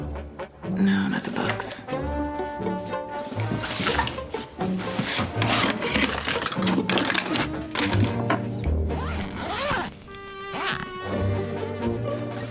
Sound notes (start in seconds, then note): 0.0 quirky music; 8.9 unzipping suitcase; 11.4 quirky music